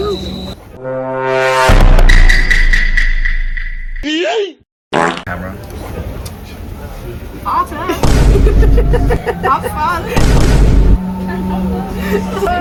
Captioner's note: in German